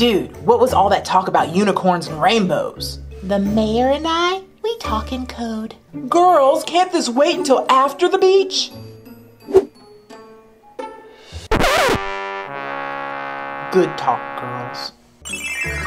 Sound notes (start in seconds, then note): 11.4 record scratching; 11.5 horn music